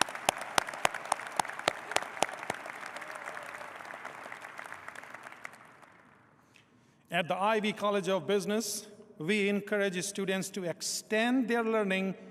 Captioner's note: applause